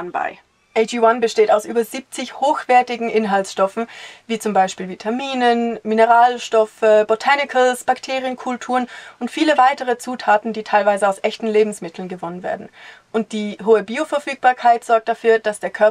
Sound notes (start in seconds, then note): none